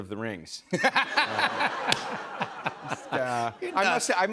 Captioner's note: laughter